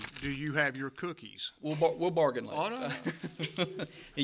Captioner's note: laughter